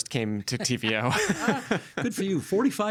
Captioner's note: both laughing